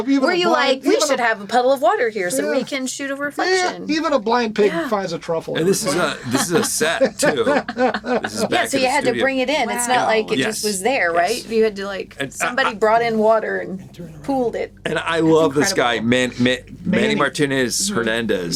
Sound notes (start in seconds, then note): 5.6 laughing